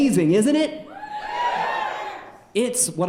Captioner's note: audience cheering